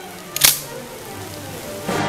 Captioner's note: gun cocks